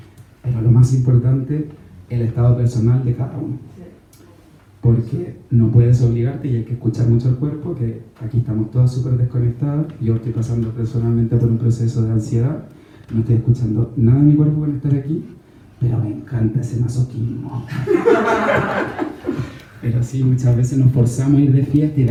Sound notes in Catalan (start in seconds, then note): 17.6 rialles